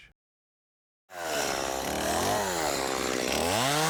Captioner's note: motor revs up and purrs